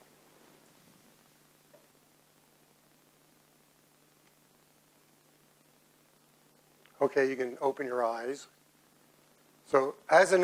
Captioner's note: silence